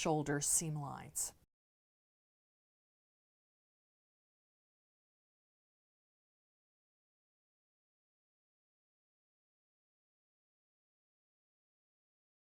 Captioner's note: no Sound Present